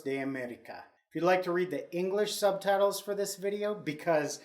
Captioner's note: speaking English